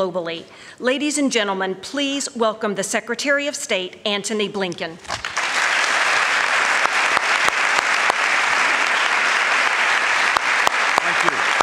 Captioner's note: applause